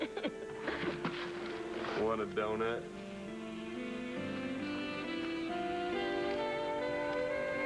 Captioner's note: roxy chuckles